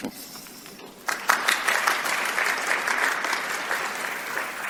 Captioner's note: applause